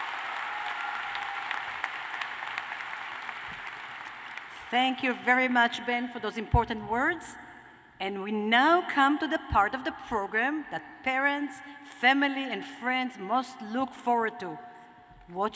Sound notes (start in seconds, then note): 4.7 cheers and applause